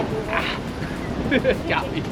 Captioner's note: both laughing loudly